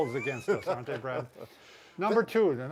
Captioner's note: laughing